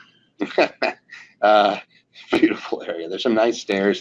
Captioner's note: laughing